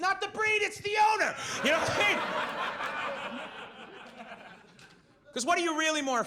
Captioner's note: audience laughs